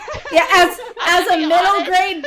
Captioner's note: laughter